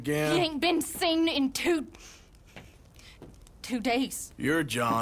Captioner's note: changes tone